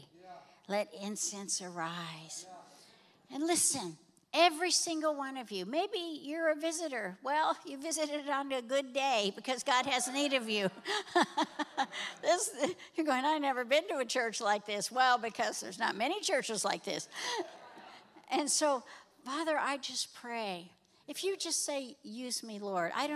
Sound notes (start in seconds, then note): 10.0 laughs